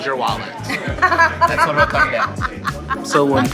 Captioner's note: laughs